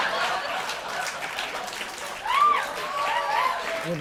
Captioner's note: laughter; cheers and applause